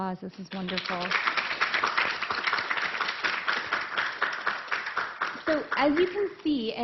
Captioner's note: applause